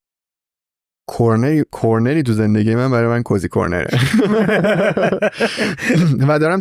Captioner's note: laughs